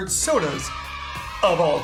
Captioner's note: kids cheering